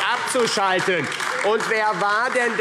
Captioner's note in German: Beifall AfD